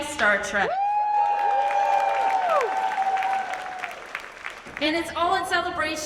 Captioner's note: audience cheers and claps